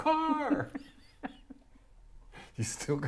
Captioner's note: chuckles